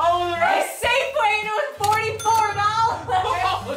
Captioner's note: ka-ching